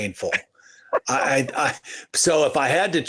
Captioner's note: laughs